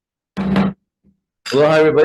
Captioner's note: gavel knocks